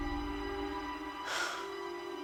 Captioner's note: sighs